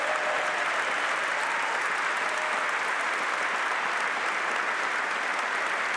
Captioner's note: applause